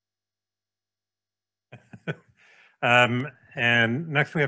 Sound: laughs

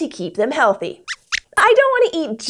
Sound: squeaks squeaks

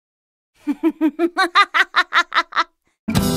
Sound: evil laugh

